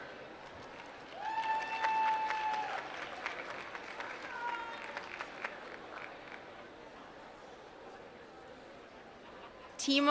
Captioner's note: applause